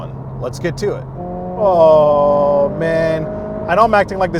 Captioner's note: engine revving